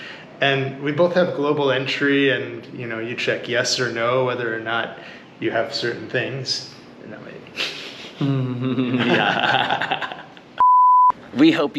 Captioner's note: laughs